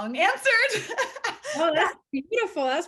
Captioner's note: laughing